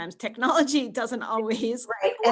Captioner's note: chuckles